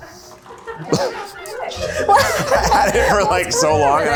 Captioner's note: crew laughter